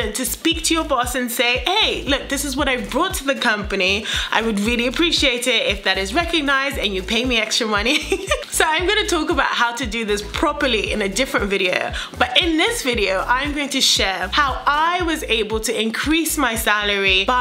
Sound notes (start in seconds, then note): 8.0 laughs